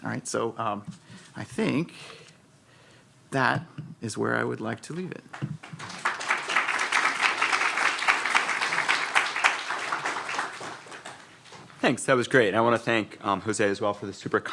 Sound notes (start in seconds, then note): 5.6 audience applauding